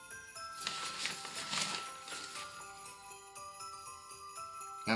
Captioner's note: paper rustles